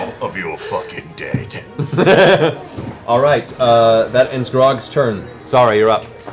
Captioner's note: laughs